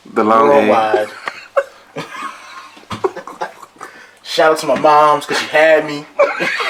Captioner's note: laughs